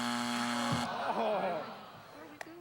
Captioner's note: buzzer